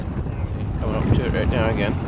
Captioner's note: water sloshing